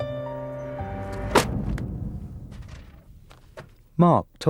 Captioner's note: pictures thud